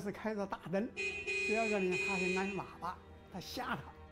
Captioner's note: horn honking